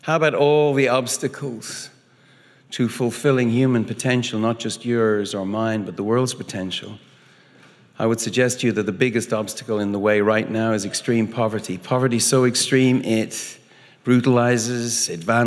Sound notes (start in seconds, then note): none